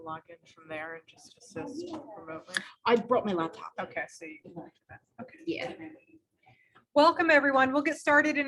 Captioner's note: background conversations occurring